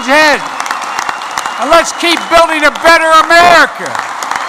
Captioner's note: applause